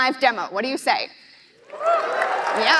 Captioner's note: applause